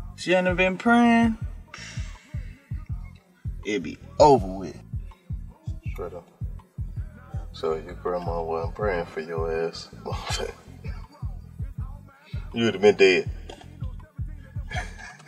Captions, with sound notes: If she hadn't of been praying. (scoffs) It be over with. - Straight up. So if your grandma wasn't praying for your ass. (laughs) You would have been dead. (laughing)